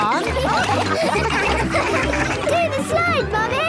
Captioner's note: all laughing